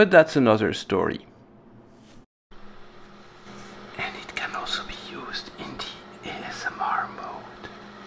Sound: in a very soft voice

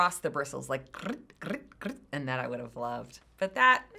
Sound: trills tongue

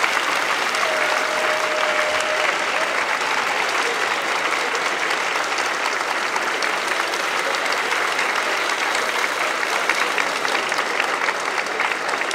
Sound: applause

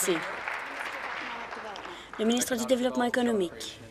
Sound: applause

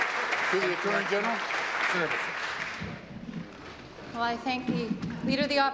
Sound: applause

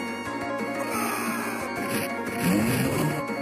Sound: character scream

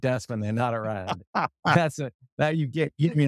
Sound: laugh

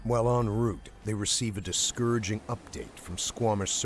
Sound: voiceover

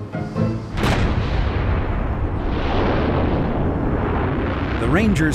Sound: upbeat music; rocket roaring

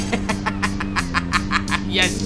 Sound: laughing Evilly

